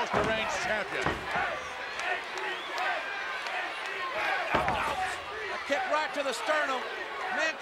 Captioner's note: applause